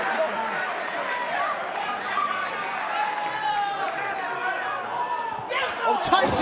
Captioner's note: cheers and applause